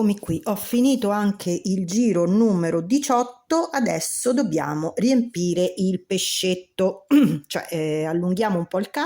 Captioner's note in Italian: schiarire la voce